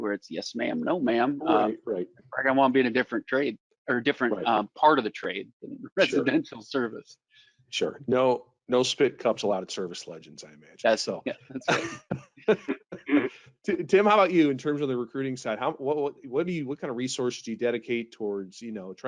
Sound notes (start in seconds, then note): 12.4 laughing